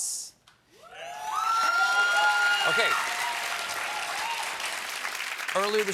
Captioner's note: cheers and applause